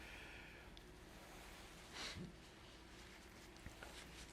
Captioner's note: wiping nose